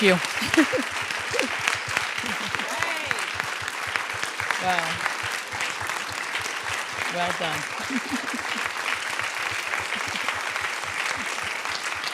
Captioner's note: applause